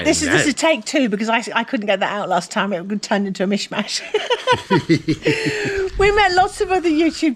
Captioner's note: laughter